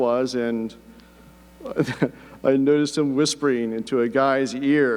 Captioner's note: laughs